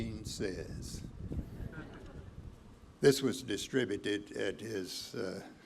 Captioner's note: laughter